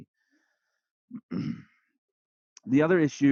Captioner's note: clears throat